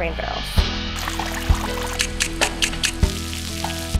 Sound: water spraying

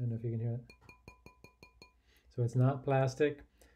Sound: tapping on bowl

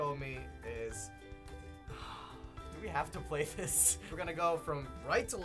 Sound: sighs

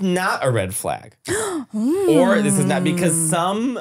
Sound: foreign language

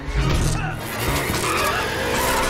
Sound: groans

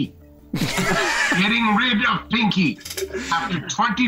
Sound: group laughs

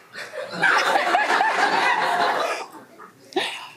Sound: everyone laughs

